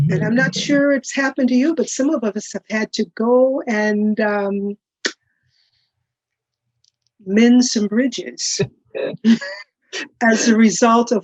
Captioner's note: laughs